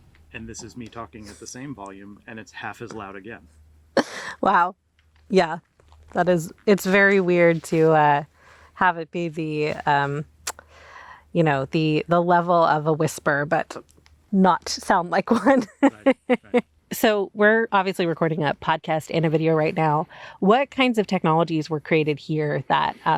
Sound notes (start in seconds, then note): 4.0 laughs; 15.3 laughs